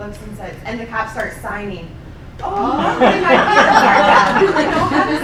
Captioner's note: laughing